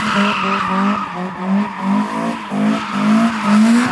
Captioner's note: car sounds